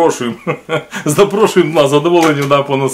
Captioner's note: laughing